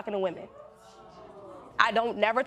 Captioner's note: audience exclaiming